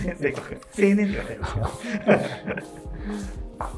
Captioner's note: laughing